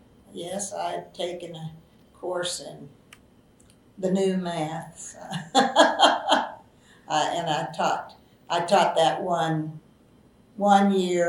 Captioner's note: laughs